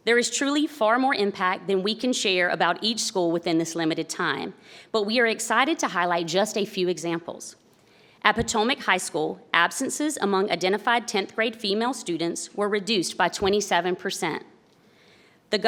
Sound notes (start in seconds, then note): none